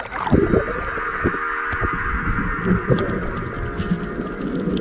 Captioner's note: ocean water bubbling